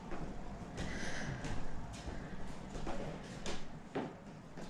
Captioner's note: Leona sighs